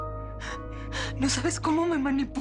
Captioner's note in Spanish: Sollozos